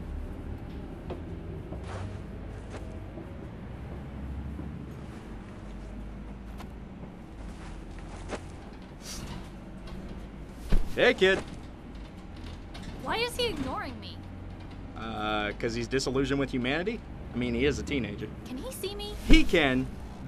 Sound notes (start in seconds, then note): 8.9 sniffs